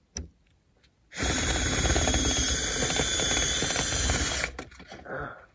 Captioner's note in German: Geräusch einer elektrischen Bohrmaschine